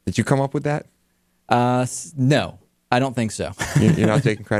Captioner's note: laughs